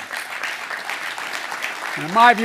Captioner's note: applause